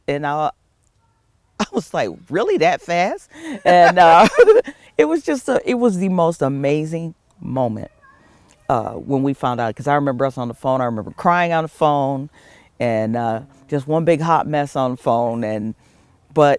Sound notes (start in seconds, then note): 3.3 laugh